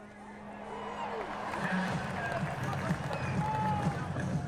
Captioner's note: crowd cheering